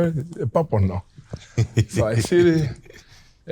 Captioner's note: speaker laughs